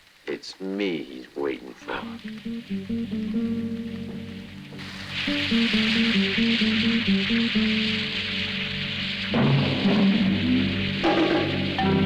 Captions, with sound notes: It's me he's waiting for. (tense music continues) (rain whooshing)